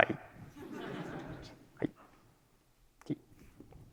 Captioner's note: laughter